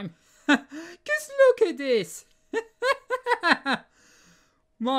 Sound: laughing

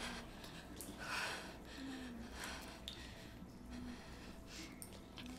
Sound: woman breathing heavily

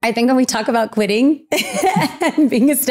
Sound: giggling

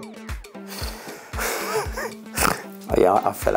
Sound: laughs; snorts

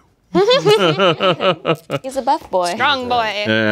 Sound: all laughing

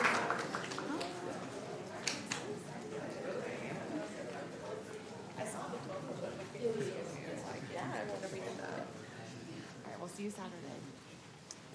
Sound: applause

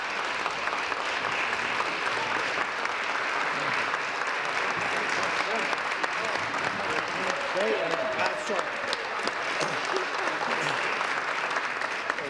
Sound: applause

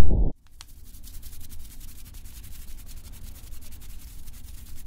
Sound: fluttery swishing

